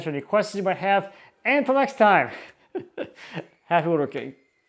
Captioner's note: chuckles